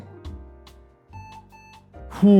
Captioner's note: POST beeps twice